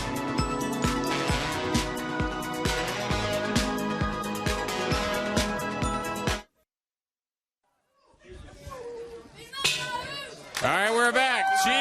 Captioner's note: crowd chatter